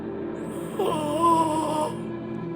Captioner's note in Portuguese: grunhidos